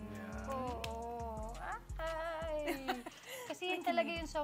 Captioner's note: laughs